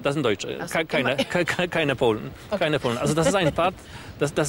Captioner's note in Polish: smiech